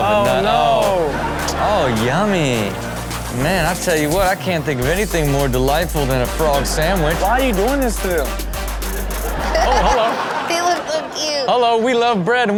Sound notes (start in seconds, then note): 9.2 Chanel laughs